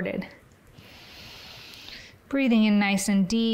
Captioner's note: inhales